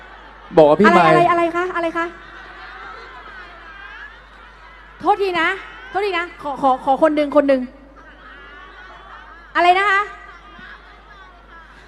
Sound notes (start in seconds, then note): 0.0 fans yelling pool scene